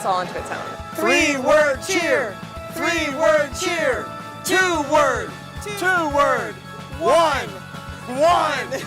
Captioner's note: laughing